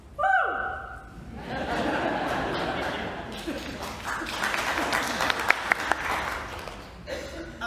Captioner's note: laughter and light applause